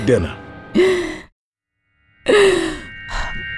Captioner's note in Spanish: Rochelle suspira